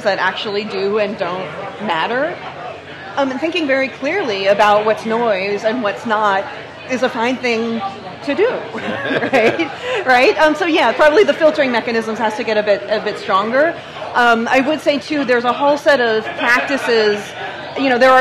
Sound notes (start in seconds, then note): 8.6 laughs